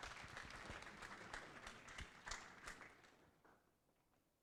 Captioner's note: applause